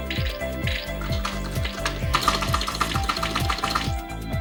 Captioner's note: rapid Clacking of Keys